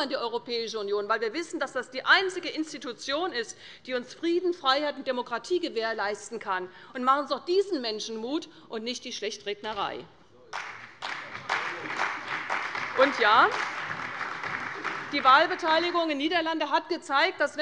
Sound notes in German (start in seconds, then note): 8.6 Beifall bei der CDU und dem BÜNDNIS 90/DIE GRÜNEN